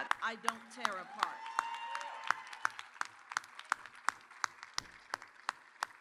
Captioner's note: audience cheers and applauds